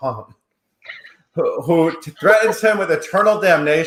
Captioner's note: chuckles